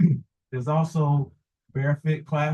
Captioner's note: coughs